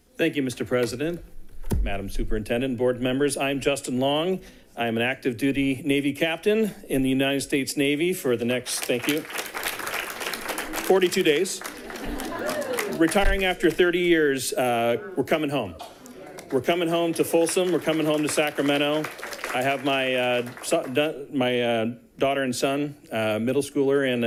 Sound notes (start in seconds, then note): 10.5 people clapping; 12.2 people giggling